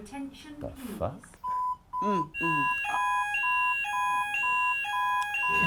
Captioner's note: alarms blaring